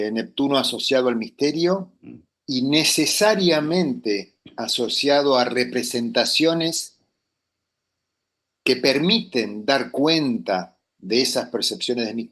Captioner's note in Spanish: carraspeo